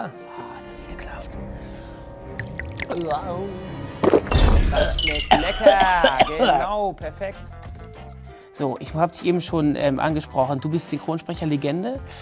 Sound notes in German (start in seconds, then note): 2.2 Bedrohliche Klänge, Gluckern; 2.3 Schlucken; 4.6 Husten